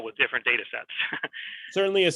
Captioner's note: chuckles